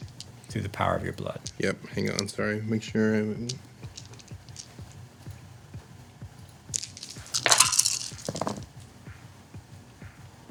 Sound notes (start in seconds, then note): 8.0 clatter